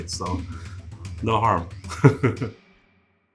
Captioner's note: laughing; intense instrumental music stopping abruptly